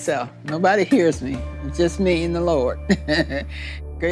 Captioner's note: laughs